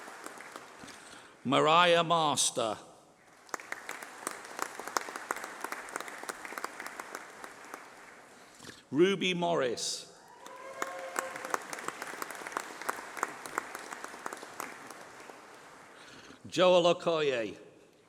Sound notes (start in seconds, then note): 1.3 applause